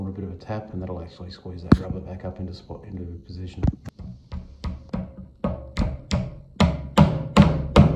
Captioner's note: hammering sound